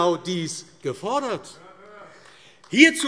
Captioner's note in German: Beifall AfD - Zuruf AfD: Hört, hört!